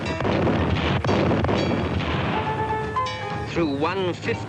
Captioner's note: guns firing